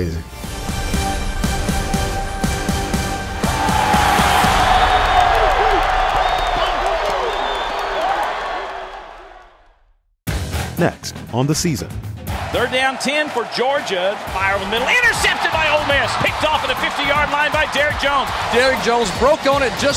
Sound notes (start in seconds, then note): 0.2 dramatic music; 3.3 crowd yelling; 10.2 intense music